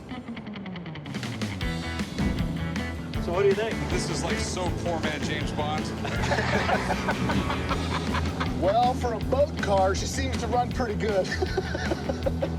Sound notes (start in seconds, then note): 6.0 laughter; 11.2 laughs